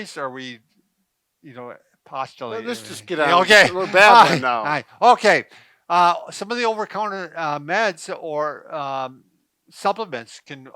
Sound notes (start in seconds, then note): 5.5 laughing